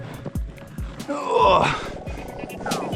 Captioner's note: old man sound